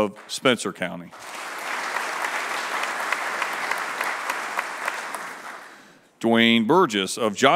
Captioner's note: applause